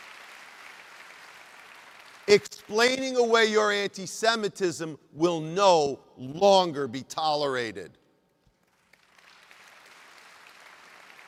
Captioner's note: applause